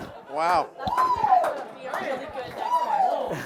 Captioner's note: cheering; chuckles